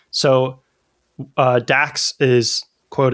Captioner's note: uh